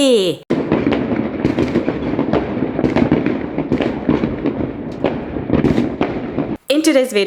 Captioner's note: the sound of fireworks going off